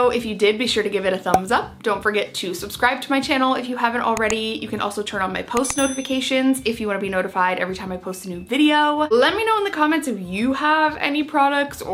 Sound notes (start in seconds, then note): 5.6 bell dings